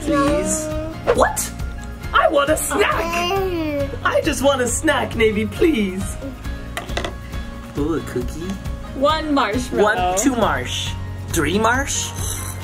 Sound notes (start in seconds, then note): 2.7 laughs; 6.8 plate clatters